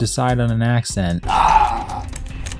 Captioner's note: Max groans